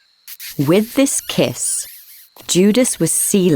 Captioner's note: lips smooching